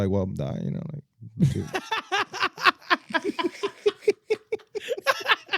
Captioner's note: laughing